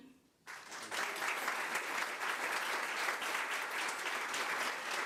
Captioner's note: crowd applause